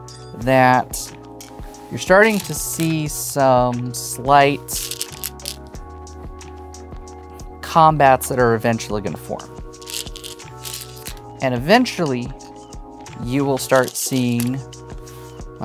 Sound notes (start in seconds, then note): 4.7 stones rattling; 9.8 stones rattling